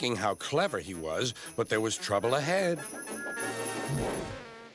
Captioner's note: whistles